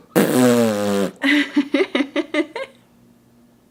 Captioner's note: blows raspberries